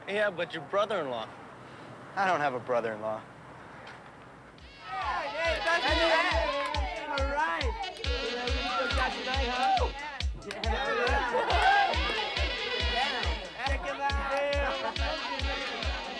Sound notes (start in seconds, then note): 5.7 students chattering; 5.7 upbeat music